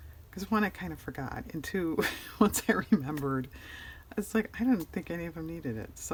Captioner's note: laughs